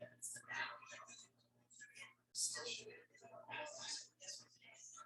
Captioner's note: people chattering indistinctly